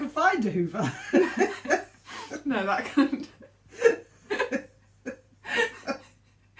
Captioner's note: laughing